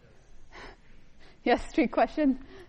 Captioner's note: laughs